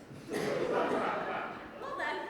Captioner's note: audience laughs